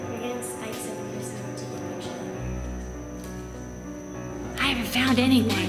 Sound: creepy music; children talking

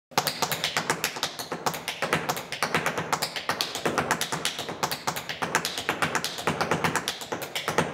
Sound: tap dancing

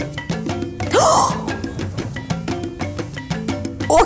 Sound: gasping

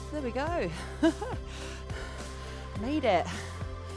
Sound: laughing

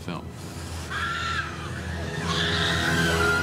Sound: all shrieking

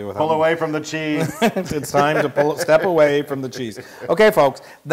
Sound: laugh

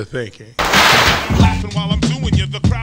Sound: body crashing

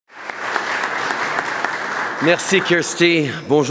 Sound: applause

